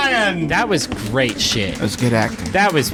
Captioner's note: applause